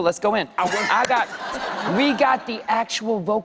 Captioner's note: laughter